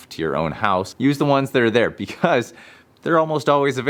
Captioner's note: chuckles